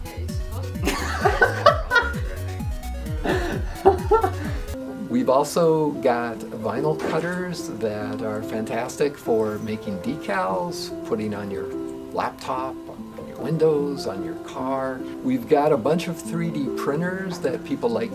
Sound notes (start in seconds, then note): 0.8 gleeful laughter